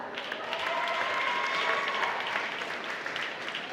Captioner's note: applause